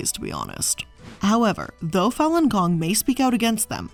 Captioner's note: air whooshing